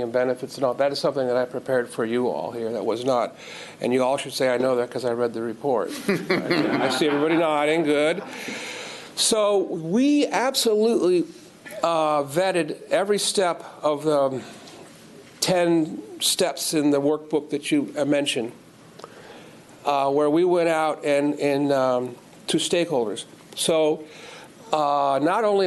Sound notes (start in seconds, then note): 9.0 laughter